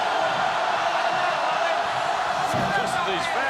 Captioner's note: crowd chants "Hooo"